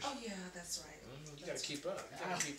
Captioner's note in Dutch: vingers knakken